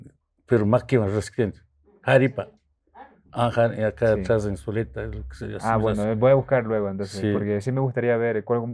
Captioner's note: quecua language